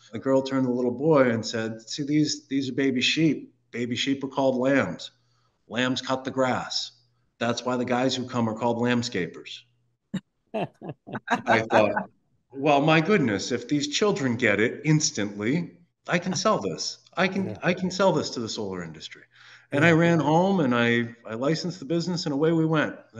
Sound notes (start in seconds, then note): 10.7 laugh